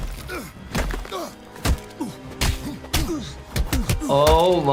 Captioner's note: fists smacking